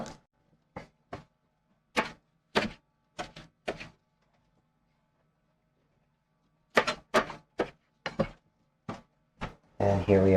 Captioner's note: knife cutting